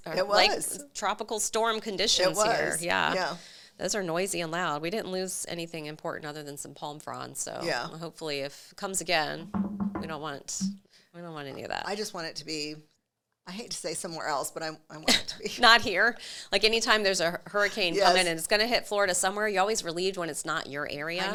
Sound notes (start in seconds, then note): 9.4 table knocks